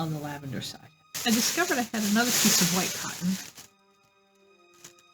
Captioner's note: plastic bag rustling